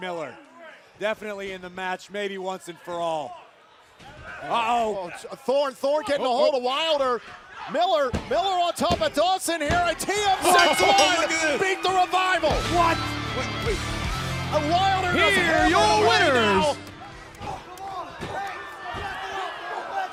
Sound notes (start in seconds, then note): 10.4 bell ringing; 12.1 crowd cheering